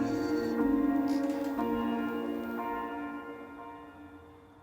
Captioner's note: Ron sighs